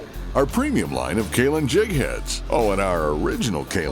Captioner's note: voiceover